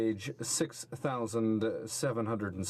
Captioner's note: speaking french